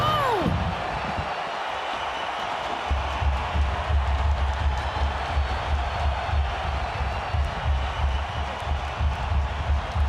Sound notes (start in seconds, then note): 1.8 crowd cheers; 1.8 hands pounding